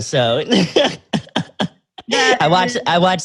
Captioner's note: laughs